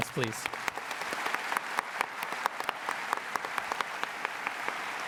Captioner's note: applause